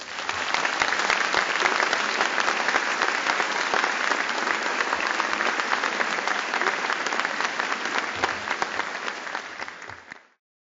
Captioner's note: applause